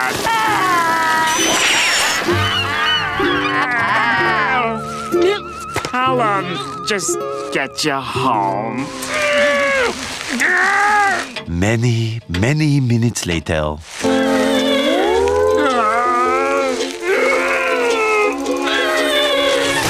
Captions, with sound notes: [crying] I'll, um, just get you home. [grunting] Many, many minutes later. [groaning]